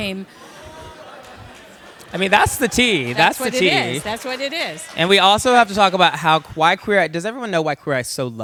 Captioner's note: laughter